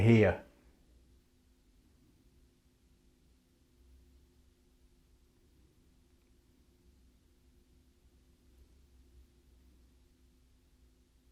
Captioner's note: silence